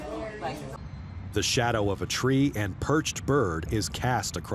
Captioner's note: birds chirping